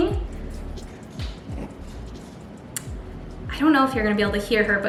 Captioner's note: rabbit grunting